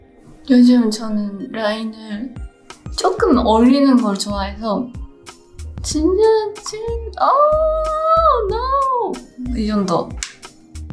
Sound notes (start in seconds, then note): 5.3 foreign language continues; 5.3 gentle music continues